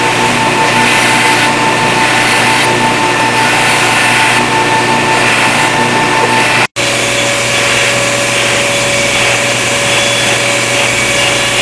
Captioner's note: grinder noise